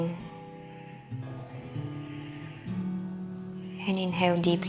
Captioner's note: exhaling